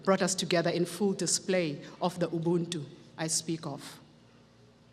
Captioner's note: speaks foreign language